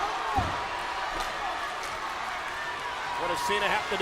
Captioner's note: crowd clamors